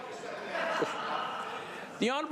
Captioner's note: crowd Noise